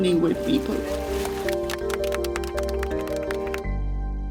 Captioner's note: clapping